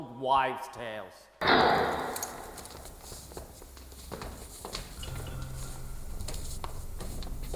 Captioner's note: metal slide of a door lock being unlatched